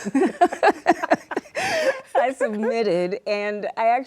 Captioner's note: laughter